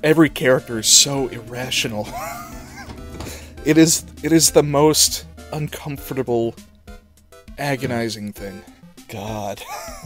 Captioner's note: wheeze